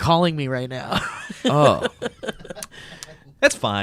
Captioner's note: laughs